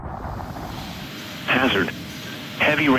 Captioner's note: automated male voice